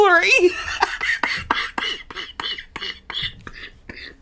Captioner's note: laughing